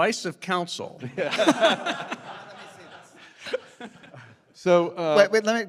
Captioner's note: laughter